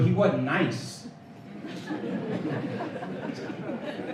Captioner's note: laughter